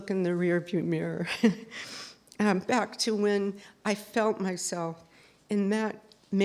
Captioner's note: laughs